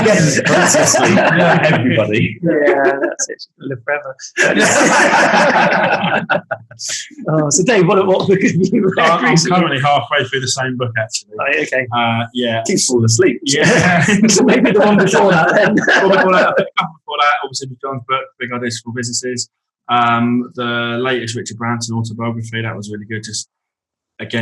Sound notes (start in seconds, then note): 4.3 group laughing; 16.8 laughs